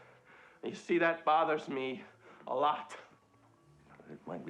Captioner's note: none